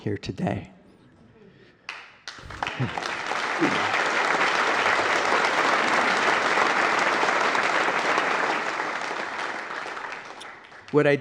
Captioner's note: applause